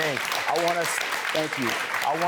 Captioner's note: audience applauding